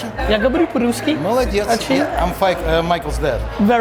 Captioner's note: speaking in Russian